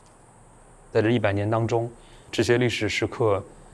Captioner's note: Mandarin